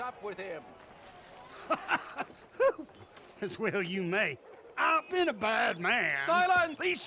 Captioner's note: laughs